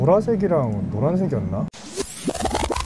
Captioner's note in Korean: 테이프 뒤로 감는 효과음